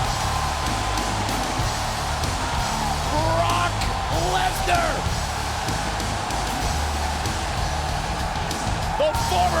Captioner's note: applause